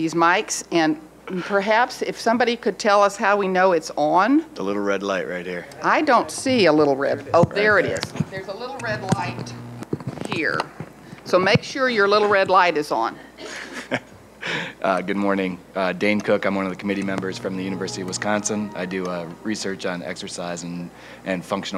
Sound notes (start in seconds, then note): 13.4 laughs